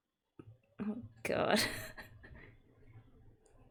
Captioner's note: laughs